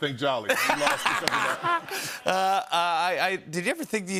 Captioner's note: laughter